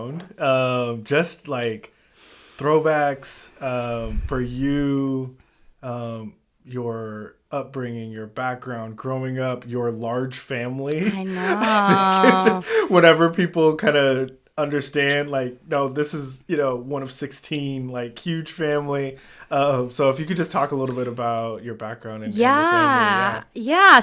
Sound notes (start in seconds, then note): 10.9 laughs